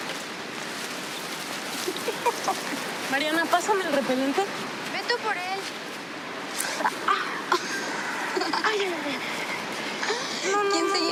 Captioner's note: speaking in Spanish